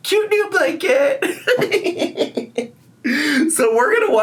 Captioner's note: laughing